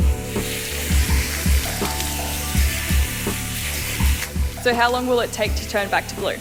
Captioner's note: water running